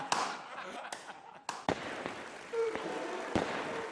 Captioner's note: laughing; audience gasping and cheering